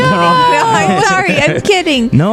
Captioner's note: laughs